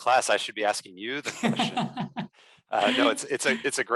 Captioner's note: laughs